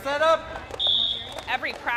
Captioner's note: whistle blows